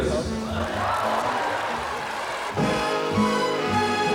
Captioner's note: cheering